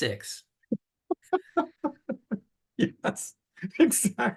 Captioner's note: laughter